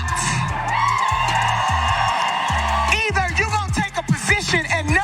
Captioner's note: applause